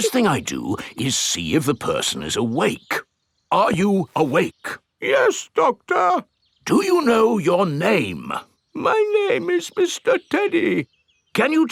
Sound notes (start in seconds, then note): 5.4 in teddy's voice; 7.2 in normal voice; 9.2 in teddy's voice